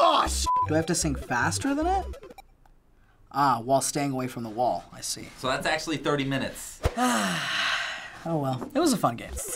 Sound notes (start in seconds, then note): 6.9 sighs